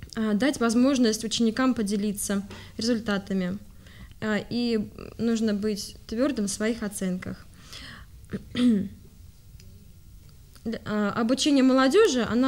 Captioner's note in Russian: откашливается